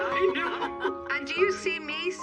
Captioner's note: laughter